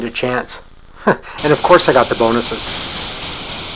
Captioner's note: chuckles